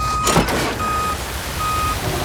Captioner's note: beeping